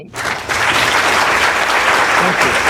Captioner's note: laughter